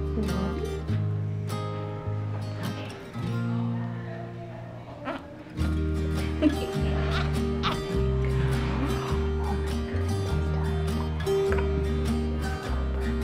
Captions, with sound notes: Do you want it? (baby babbling) (music drowns out speaker)